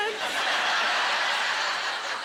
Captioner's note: laughter